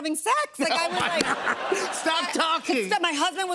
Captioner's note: laughter